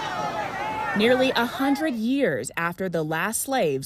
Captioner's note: crowd shouting